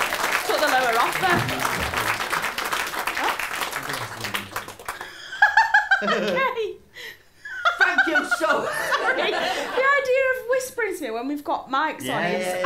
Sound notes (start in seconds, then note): 8.2 chuckles